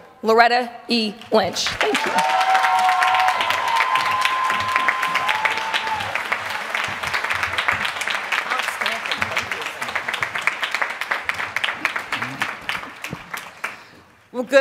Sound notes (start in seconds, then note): 7.0 applause